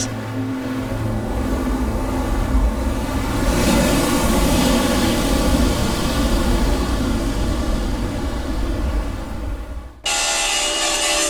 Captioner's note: waves crashing